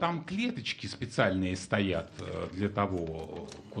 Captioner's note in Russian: none